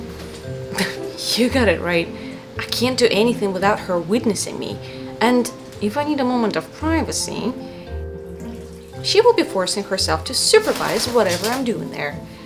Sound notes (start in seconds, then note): 7.6 water running